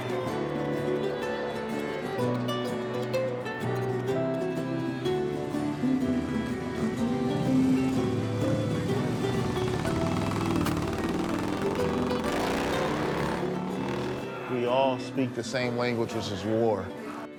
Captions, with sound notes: (acoustic music) (bike roars) - We all speak the same language, which is war.